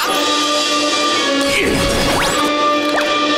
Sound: grunting

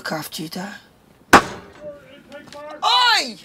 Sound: thump

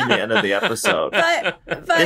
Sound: laughter

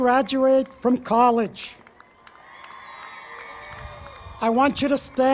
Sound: cheering

